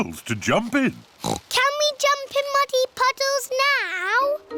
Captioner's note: oinks